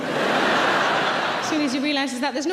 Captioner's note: audience laughs